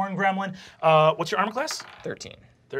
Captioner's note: dice clacking